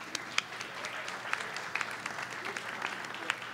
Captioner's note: applause